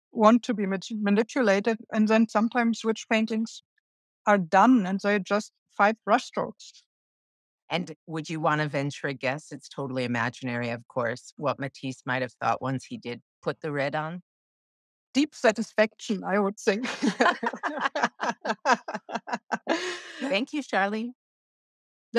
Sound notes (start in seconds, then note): 16.8 laughing